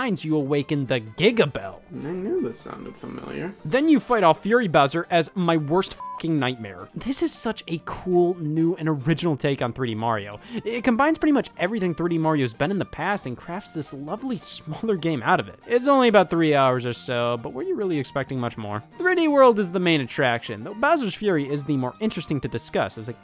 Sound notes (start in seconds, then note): 5.9 beep